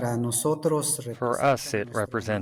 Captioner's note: through translator